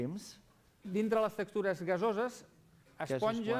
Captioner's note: non-english speech